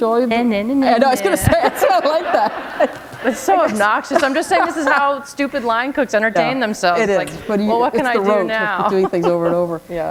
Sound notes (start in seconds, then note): 2.7 laughter